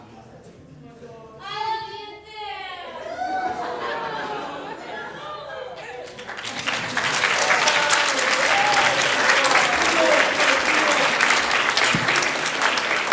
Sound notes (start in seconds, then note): 8.4 applause